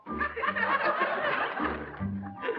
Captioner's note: laughter